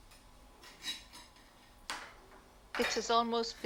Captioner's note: television plays